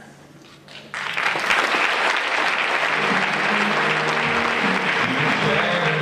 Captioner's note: applause